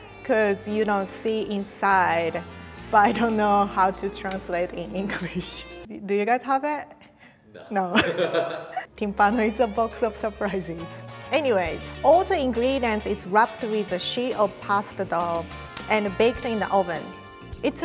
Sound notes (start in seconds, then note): 7.8 giggles; 7.9 laughs